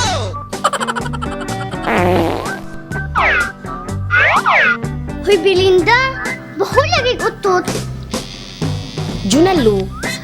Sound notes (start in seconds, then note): 1.8 farts